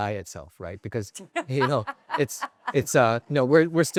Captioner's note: laughing